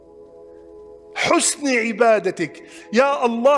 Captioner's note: Arabic